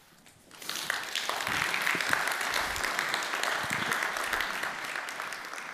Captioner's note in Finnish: Applause